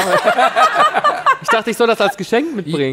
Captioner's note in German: Lachen